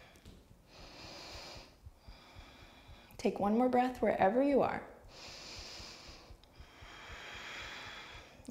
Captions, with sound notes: Take one more breath wherever you are. (deep breath)